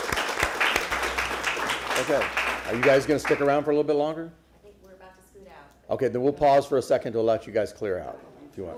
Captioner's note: applause